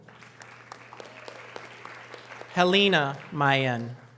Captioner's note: audience applause